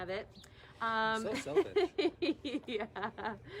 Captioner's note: laughter